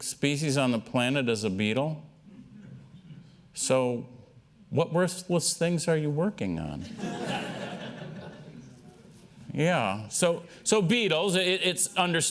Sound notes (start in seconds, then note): 6.9 laughter